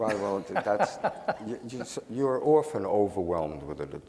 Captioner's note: laughing